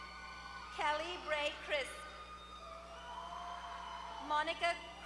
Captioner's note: applause; applause